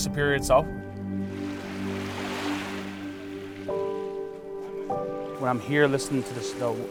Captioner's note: waves crashing